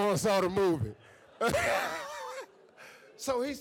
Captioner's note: laughs